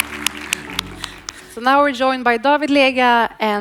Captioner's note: audience applauds